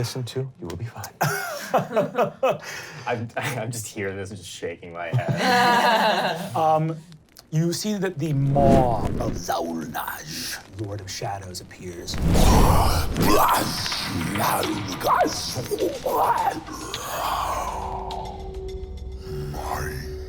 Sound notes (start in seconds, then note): 1.2 laughing; 5.1 laughing; 12.4 grunting; 17.0 menacing inhale